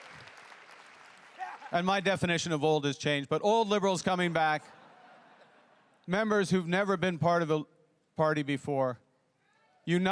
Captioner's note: cheering and applause